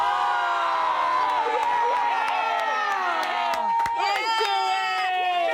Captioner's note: everyone yells and cheers